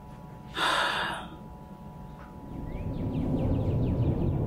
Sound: Kate sighs

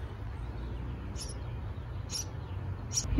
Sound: chirp chirp

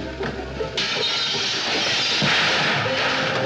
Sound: crash

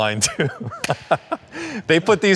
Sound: laughing

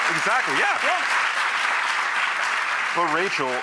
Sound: audience applause

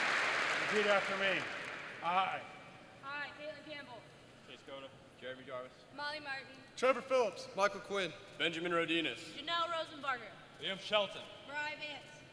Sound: applause

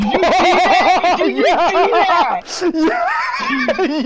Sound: laughs

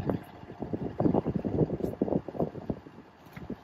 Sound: air swooshing

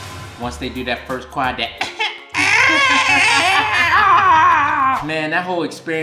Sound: mimicking baby crying

